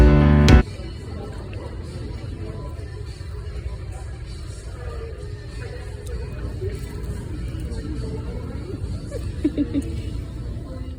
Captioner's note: ambient noise with some giggles